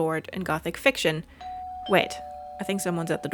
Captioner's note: doorbell